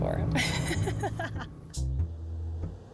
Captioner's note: laughs